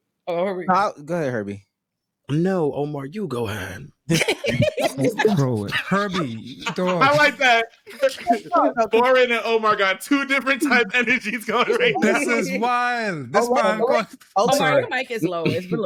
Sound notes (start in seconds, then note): 4.1 laughter